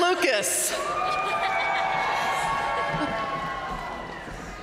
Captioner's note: audience cheering and applauding